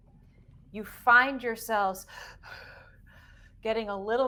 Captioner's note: deep breathing